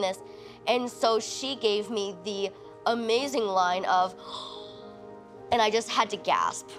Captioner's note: gasping